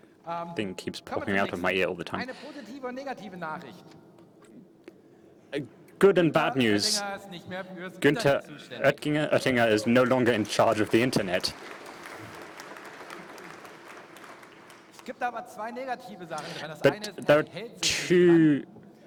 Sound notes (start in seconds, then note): 16.4 applause